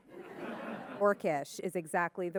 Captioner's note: audience laughing